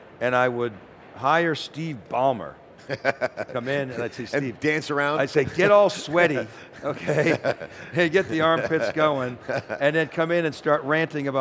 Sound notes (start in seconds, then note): 2.8 chuckles; 6.6 both chuckles